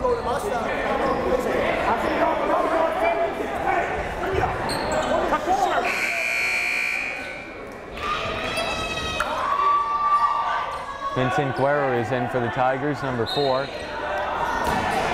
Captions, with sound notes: (timer buzzes) Vincent Guerra is in for the Tigers, number four.